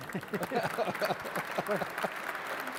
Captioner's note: applause